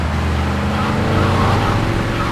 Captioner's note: tires screeching